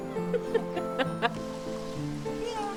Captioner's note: laughter